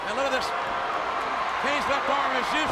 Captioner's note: audience cheers